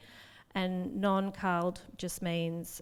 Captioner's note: speaks in foreign language